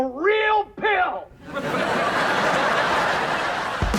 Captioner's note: laughs